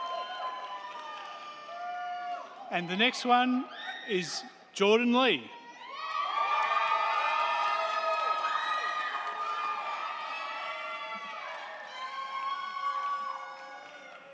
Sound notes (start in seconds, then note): 5.6 crowd cheering; 6.2 crowd clapping